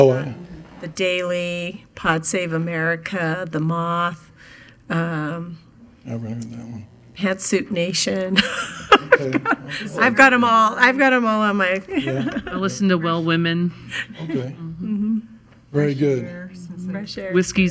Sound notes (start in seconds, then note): 8.4 chuckling